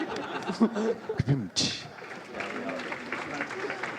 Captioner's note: laughter